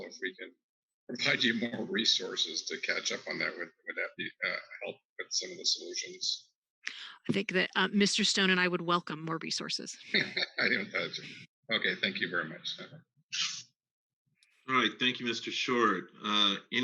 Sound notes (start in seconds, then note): 10.0 laughs